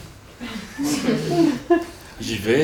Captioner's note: laughter